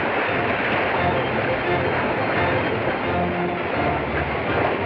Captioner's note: fast-paced music; water rushing